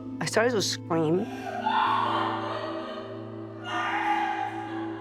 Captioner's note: screams and sobs